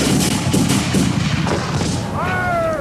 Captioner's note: guns bang